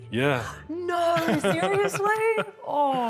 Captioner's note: laughs